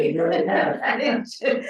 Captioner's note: laughing